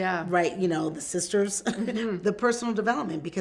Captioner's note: chuckles